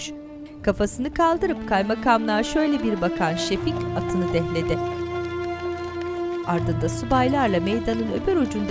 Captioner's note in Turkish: At nalı sesleri; Müzik - Hüzünlü